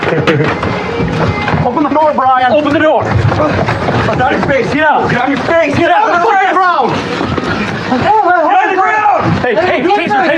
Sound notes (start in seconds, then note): 4.2 argrguingng